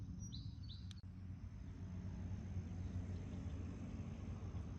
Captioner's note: wind blowing